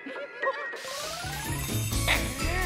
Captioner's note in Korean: 효과음